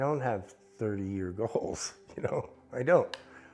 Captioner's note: laughs